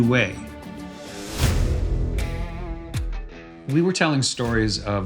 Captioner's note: air whooshing